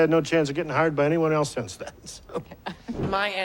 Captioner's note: chuckles